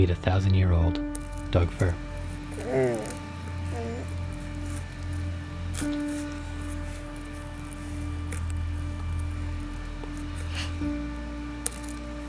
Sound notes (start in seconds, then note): 2.2 baby coos; 2.7 light music continues